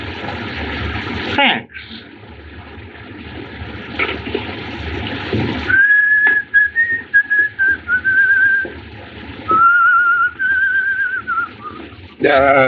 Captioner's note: whistling